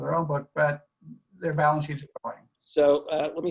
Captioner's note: audio distorts